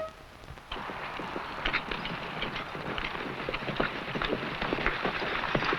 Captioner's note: horse hooves pattering